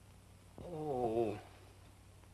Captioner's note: groaning